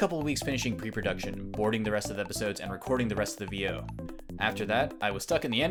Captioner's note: voice-over